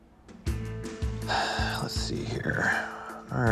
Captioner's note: exhales